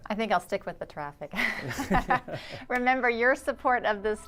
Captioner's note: laughs